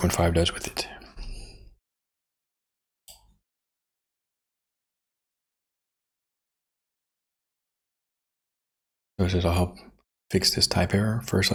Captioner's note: silence